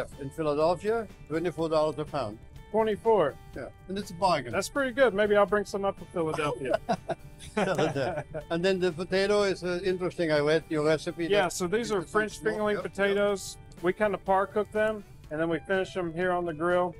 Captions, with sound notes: Chef, in Philadelphia. $24 a pound. -24? -Yea. And that's a bargain -That's pretty good. Maybe I'll bring some up to Philadelphia. [both laugh] And then the potato is interesting. I read your recipe. -Yeah. So these are French fingerling potatoes. We kind of par-cook them and then we finish them here on the grill